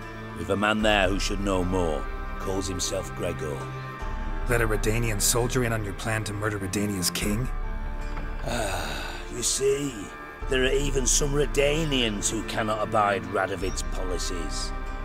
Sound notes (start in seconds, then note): 8.4 sigh